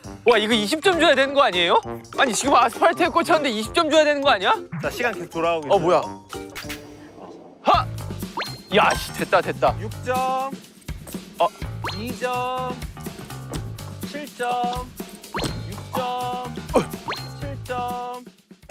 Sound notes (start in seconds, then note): 14.3 in an answering machine tone